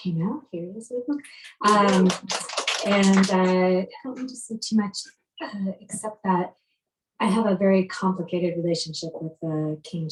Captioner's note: applause